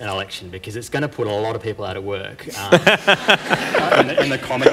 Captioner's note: laughter